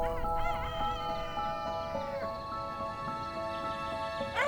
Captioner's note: rooster crowing